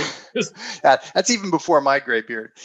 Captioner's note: chuckles